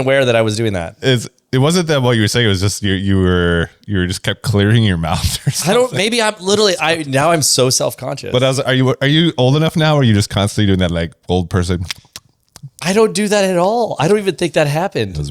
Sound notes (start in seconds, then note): 4.9 laughs; 10.6 mouth clicks